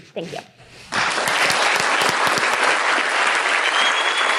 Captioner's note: applause; whistles and applause